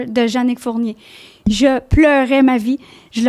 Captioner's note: in french